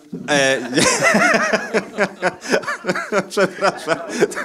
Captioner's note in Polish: śmiech